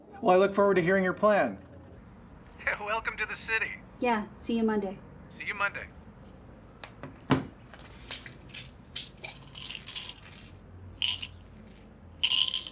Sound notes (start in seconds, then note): 8.7 pills rattling